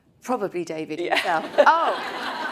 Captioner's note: all laugh